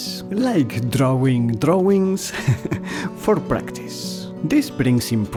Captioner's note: laughter